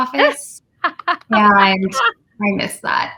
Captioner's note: laughs